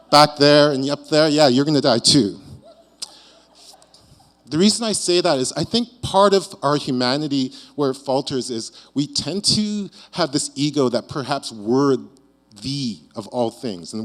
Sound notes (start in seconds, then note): 3.3 audience chuckling